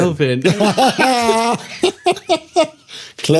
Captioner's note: laughing